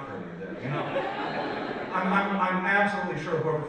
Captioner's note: audience laughs